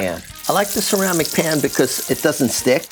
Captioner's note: eggs sizzle